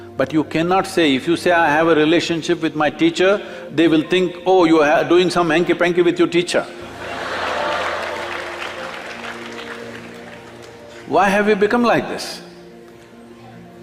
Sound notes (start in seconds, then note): 9.4 laughter/Applause